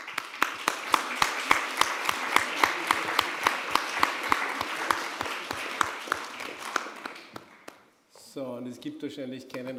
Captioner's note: applause